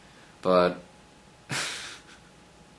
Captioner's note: chuckles